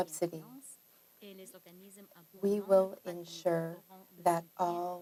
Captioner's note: speaking French